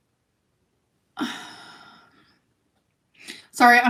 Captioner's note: sighs